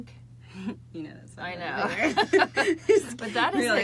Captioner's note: laughing